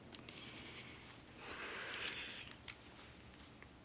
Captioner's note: sighs